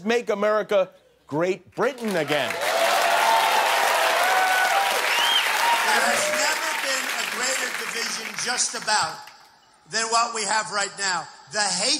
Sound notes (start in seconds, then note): 2.1 cheers and applause